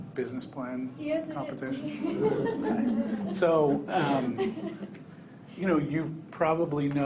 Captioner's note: people laughing